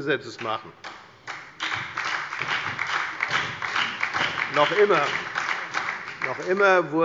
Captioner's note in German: Beifall bei der FDP und bei Abgeordneten der SPD